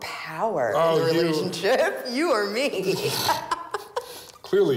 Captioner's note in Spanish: risas